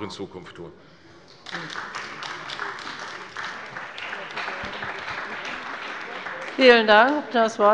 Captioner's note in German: Beifall bei der CDU und dem BÜNDNIS 90/DIE GRÜNEN